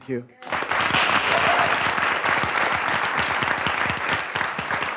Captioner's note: audience applauds